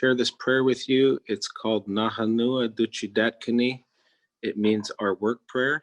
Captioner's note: speaking in Native Language